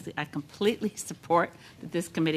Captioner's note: speaking in French